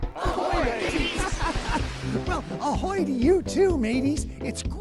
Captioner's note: laughing